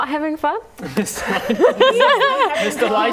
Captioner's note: laughing